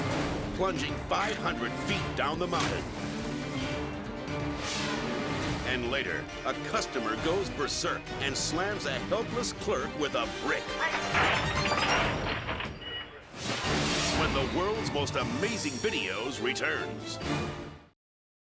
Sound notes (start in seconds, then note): 10.8 merchandise clattering